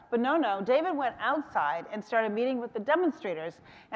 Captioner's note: none